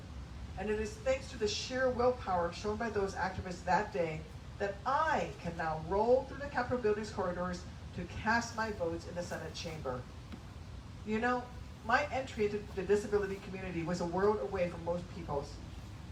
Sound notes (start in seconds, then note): none